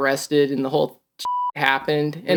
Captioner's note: beep